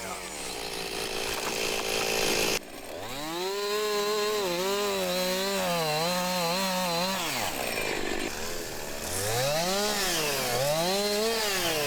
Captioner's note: chainsaw running